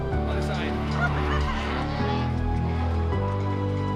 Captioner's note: laughs; engines rev